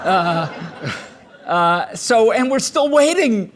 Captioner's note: laughter